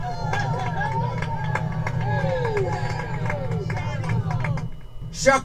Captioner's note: audience cheers and applauds